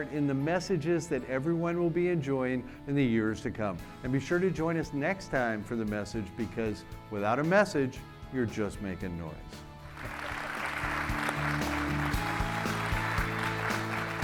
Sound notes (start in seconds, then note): 9.8 audience clapping